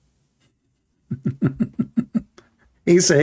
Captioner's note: Ketawa